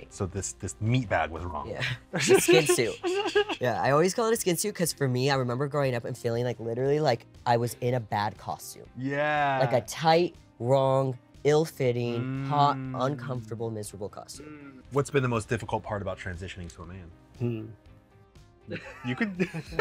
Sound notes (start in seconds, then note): 2.1 giggles